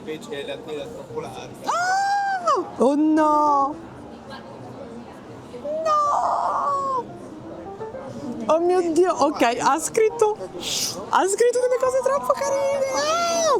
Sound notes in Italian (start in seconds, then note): 1.3 urlo